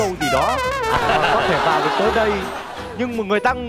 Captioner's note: laughing